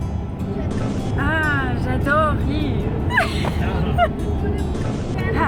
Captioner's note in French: Rire